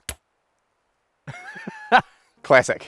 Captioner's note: laughs